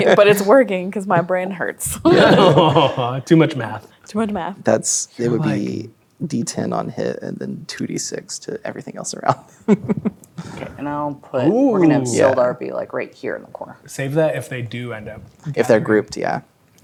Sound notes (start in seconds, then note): 1.9 laughing; 9.3 chuckling